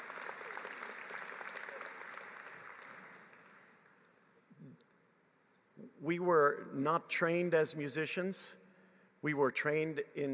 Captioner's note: applause